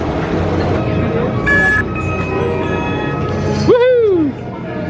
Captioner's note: machine beeps